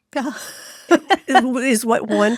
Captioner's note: laughs